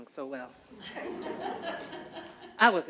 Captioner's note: audience laughs loudly